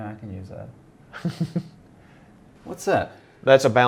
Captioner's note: laughs